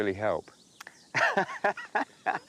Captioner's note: laughs